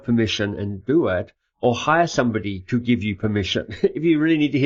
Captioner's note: laughs